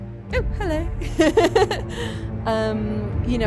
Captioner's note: laughing